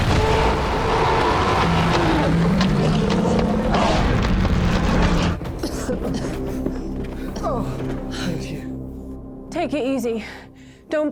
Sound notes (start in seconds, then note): 0.0 shark roaring; 5.7 Larry panting; 5.7 dramatic music